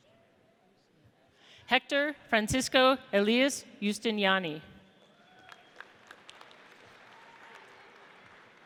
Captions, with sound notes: Hector Francisco Elias Justiniani. (audience applauds)